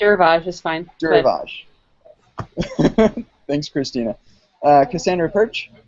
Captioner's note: laughs